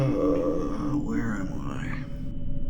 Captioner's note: groans